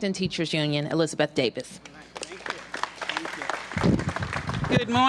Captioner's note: applause